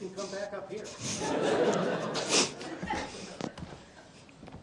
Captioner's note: laughter